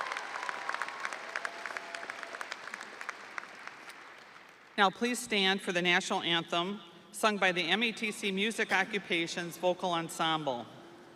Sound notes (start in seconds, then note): 2.9 audience applauding; 2.9 audience cheering